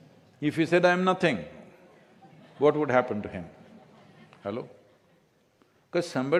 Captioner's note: few laugh